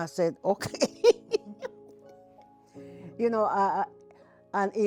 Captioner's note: laughing